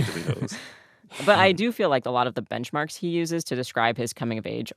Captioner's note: laughter